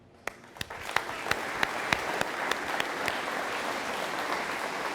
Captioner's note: audience applauding